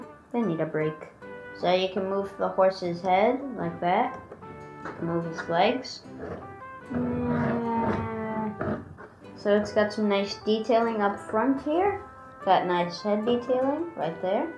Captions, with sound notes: They need a break. So you can move the horse's head, like that. Move his legs... (wails softly) So it's got some nice detailing up front here. It's got nice head detailing right there.